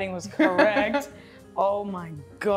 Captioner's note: laughs